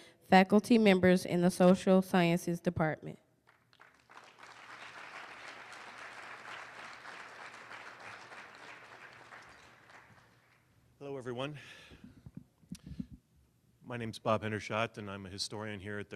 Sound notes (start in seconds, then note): 3.4 applause